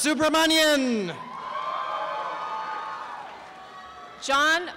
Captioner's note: applause and cheering